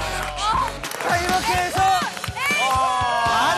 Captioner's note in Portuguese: Aplausos de pé